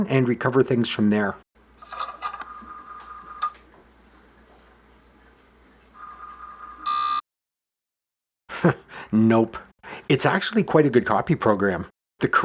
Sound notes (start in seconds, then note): 8.5 chuckle